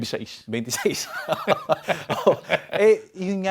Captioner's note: both laugh